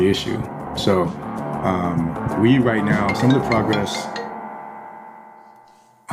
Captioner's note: phone rings